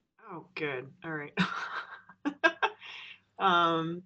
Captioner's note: laughs